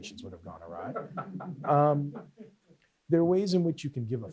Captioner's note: off-mic laughter